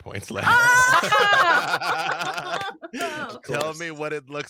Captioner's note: group cheers and applauds